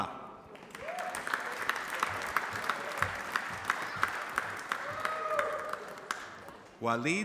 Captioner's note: applause